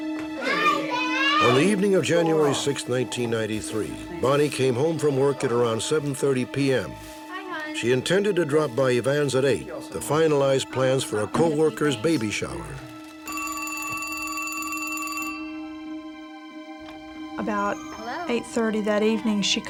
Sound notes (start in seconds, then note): 13.2 phone ringing